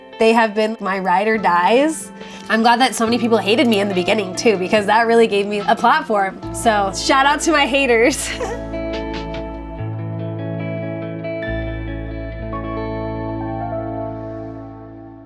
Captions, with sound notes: They have been my ride or dies. I'm glad that so many people hated me in the beginning too, because that really gave me a platform. So shout out to my haters. (laughs) (gentle music)